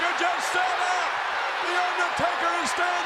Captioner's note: audience cheers